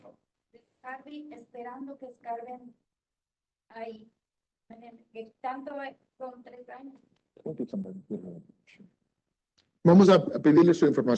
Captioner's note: speaking Spanish